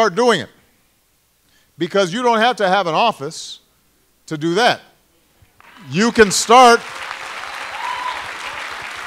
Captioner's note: applause